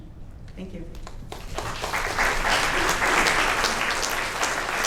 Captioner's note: audience applauds